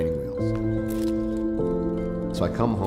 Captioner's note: camera shutter clicks